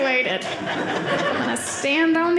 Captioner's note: audience laughing